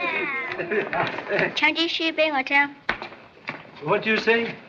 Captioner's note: speaks Chinese